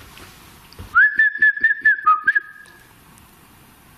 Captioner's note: whistling